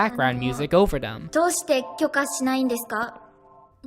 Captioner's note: Kumiko speaks in Japanese with background music